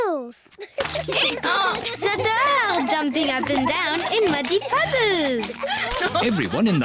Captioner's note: brays